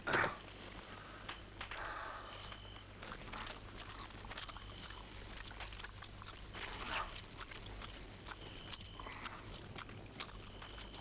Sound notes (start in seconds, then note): 0.3 Torente grunts; 4.5 Torente chewing